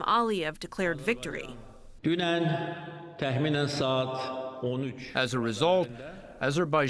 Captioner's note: through translator